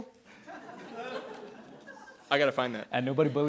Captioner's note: attendees laughing